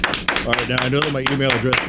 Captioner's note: clapping